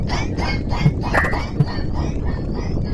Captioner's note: boink!